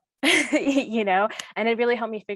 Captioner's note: chuckles